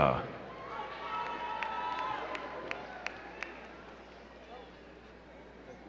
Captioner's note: crowd cheering and clapping